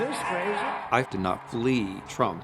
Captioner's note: cheering